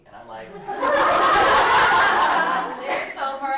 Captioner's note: laughter